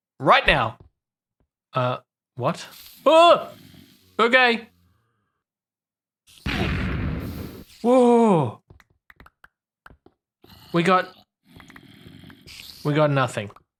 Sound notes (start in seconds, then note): 2.6 TNT hisses; 6.4 explosion